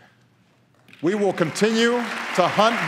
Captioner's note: applause